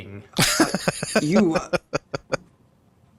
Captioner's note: laughing